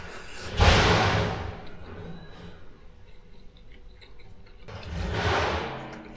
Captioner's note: objects suffering in the wind